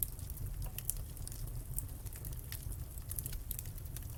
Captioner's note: fire crackling